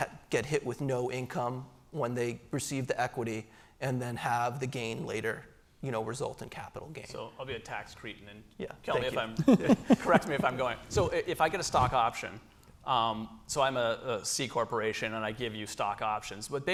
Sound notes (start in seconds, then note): 8.9 laughs